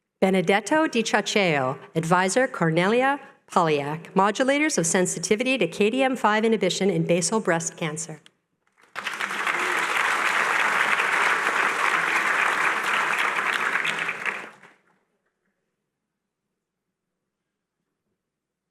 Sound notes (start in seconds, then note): 8.7 applause